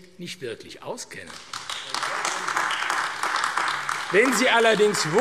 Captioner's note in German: Beifall AfD